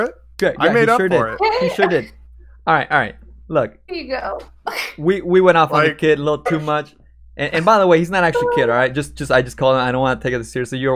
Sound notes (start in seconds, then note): 4.6 laughs